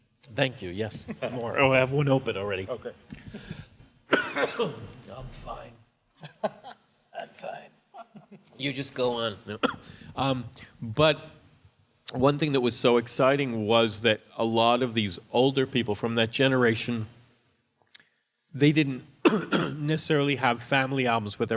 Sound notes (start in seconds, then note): 4.1 coughing; 6.2 laughing; 7.4 hoarse voice